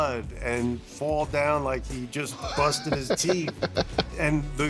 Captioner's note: laughing